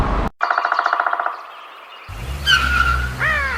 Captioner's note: birds chirping; tires squeal